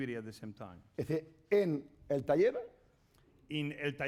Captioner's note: speaking spanish